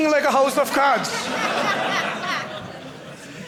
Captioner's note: audience laughing